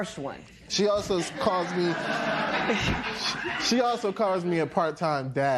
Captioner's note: laughter